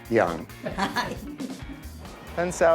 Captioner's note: laughing